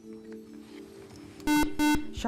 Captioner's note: buzzer